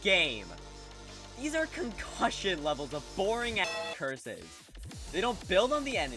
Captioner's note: bellring